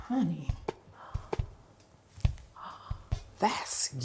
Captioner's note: gasping